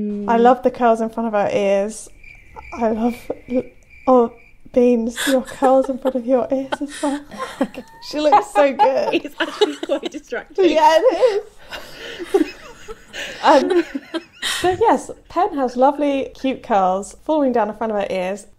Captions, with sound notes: I love the curls in front of her ears. (crickets chirping) I love-- Oh, Beans, the curls in front of your ears. (laughing) She looks so good. - It's actually quite distracting. - Yeah, it is. (laughing) Yes, Pen has lovely cute curls falling down in front of her ears.